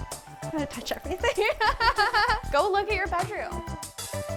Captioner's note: laughs